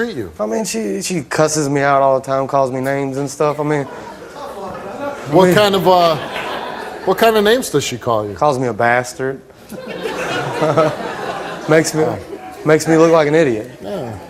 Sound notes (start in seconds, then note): 9.7 audience laughs